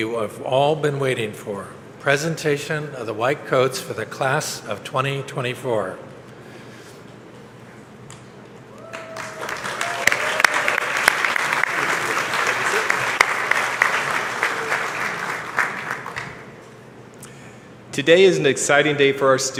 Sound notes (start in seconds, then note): 10.2 applause